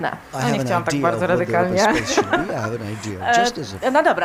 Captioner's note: śmiech